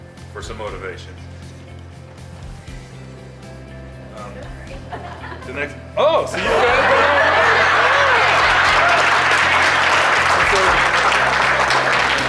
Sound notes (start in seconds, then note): 4.5 laughter; 8.5 applause